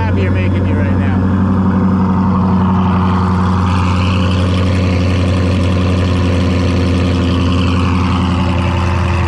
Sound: car engine running

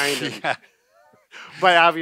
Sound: chuckling

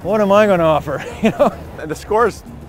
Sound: laughing

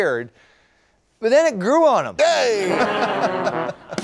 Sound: laughter

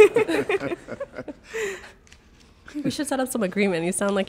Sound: everyone laughing

